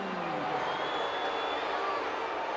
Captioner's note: applause